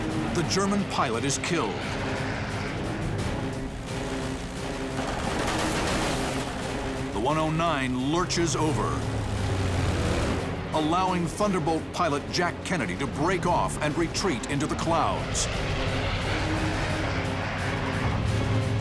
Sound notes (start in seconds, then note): 4.8 gunfire